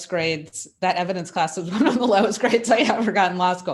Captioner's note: laughs